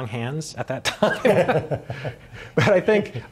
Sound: laughing

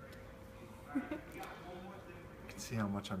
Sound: girl laughing

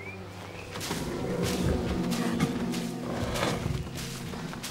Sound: growling

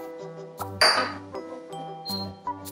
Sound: beaker bangs; stove beeps

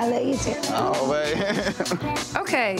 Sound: giggling

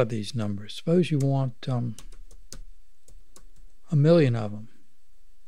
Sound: clicking

